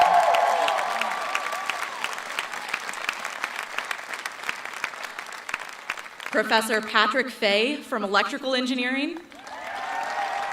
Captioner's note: cheering and applause